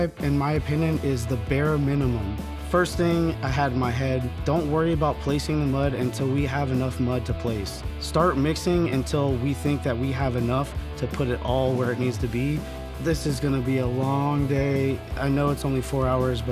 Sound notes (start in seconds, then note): none